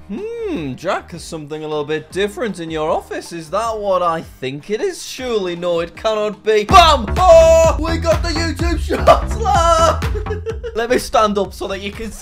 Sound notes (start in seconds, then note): 10.0 laughs